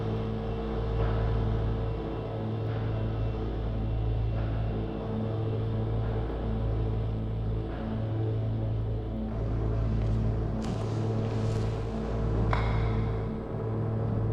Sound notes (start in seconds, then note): none